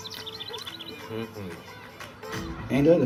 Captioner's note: birds chirping; bright music